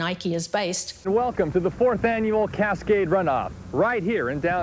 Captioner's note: radio Announcer